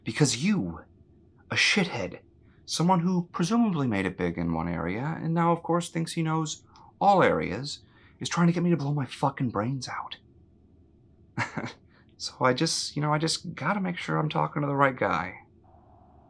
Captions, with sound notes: Because you-- a shit head-- Someone who presumably made it big in one area and now, of course, thinks they know all areas-- Is trying to get me to blow my fucking brains out. (Ludlow laughs) So, ya know- I just- I just gotta make sure I'm talking to the right guy.